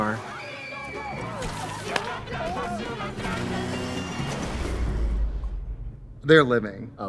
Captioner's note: people in car scream; Rahim yelling; vehicles crash